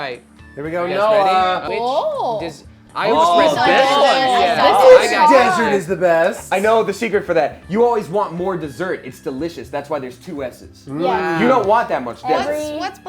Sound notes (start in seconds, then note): 3.2 overlapping chatter